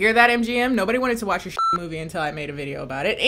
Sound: beep

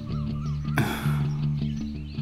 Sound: sighs

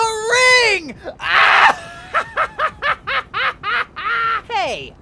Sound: uncontrollable laughter

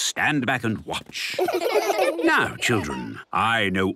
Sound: laughter

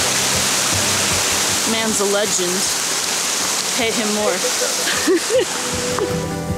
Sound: laughs

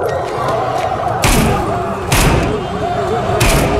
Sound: gunshots

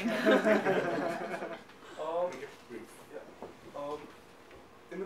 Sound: audience laughing

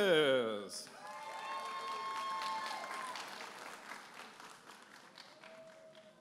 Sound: audience applauding and cheering

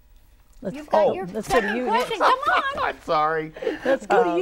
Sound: laughing

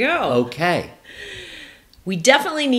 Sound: inhales deeply

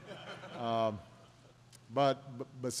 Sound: laughter

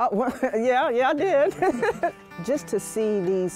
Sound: laughter

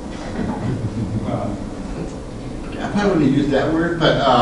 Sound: class laughs

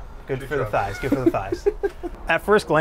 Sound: laughs

